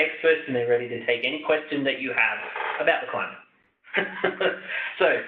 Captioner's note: chuckles